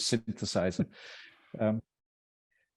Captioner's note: laughing; laughs